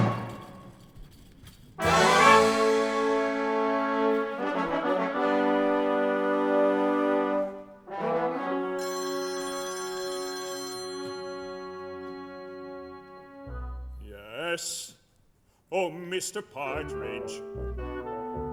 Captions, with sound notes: (PHONE RINGS) Yes? Oh, Mr Partridge!